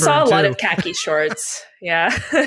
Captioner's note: laughs